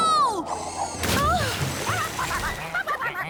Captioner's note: water Splashes!; ducks Quacking